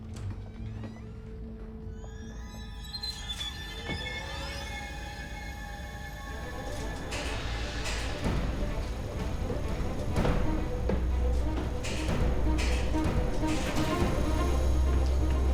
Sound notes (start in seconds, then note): 2.9 elevator whirring; 2.9 loud eerie music; 8.3 tense dramatic music